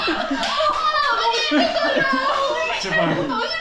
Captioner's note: laughs